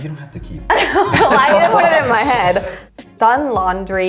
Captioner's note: all laughing